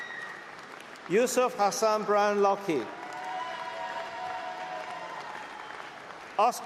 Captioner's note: cheering